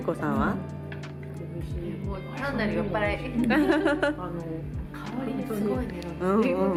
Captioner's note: laughs